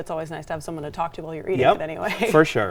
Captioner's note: laughs